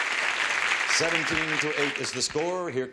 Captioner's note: audience applause